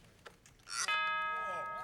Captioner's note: chimes